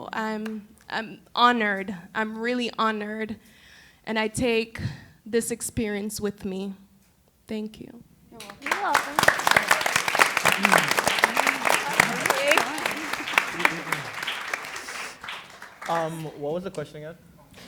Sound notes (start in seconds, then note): 8.4 applause